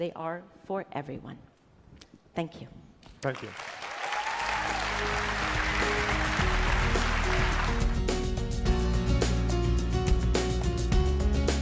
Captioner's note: applause